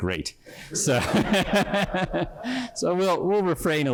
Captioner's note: laughter